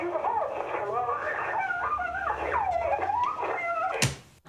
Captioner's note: sobbing